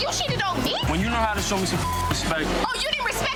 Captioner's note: beep